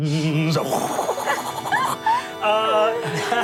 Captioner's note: laughs